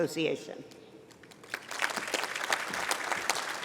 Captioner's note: applause